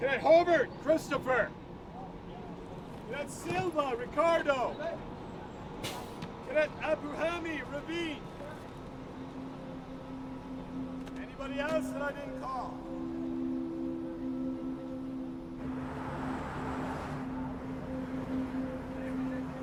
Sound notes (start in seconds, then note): 16.2 bus hums; 18.1 calm ambient music